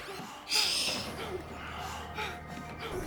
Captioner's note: Michelle whimpering